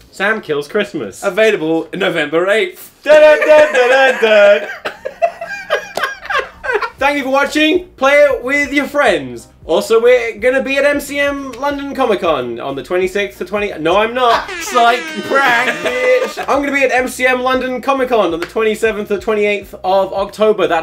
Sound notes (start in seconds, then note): 3.4 laughs; 14.4 airhorn sirens